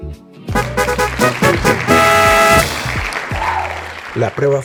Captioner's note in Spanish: aplausos